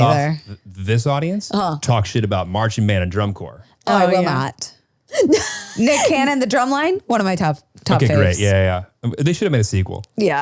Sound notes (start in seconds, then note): 5.1 laughs